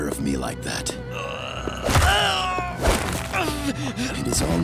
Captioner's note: groaning